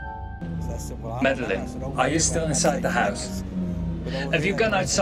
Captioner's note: Fleques' voice over Snype messenger